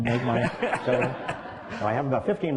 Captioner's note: laughter